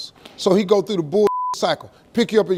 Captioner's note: beep